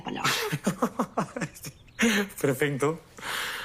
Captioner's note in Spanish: Risas